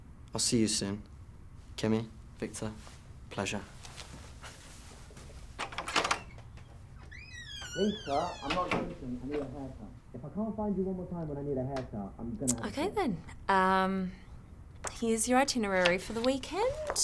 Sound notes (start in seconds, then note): 5.5 door rattles; 5.5 door creaking